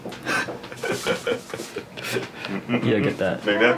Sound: laughs

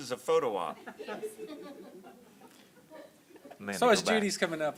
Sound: laughter continues

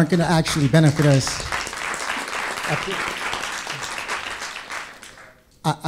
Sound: audience applause

